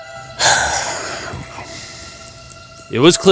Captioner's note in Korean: 한숨